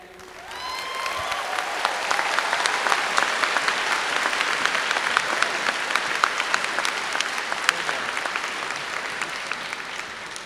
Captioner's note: applause